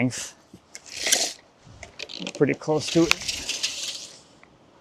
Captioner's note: tape measure rattling